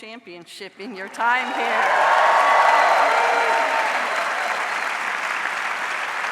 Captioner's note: audience cheers and applauds